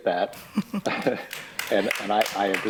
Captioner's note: laughs; applause